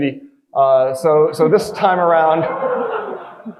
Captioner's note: audience laughing